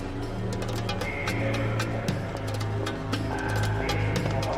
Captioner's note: man announcing over P.A